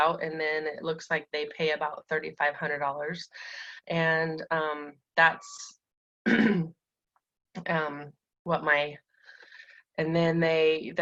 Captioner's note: clearing throat